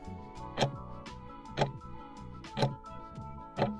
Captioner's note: timer ticking